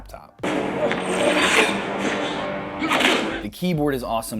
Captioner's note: fighting and grunting